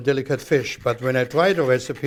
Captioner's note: grinding